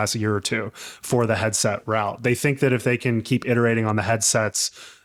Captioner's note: none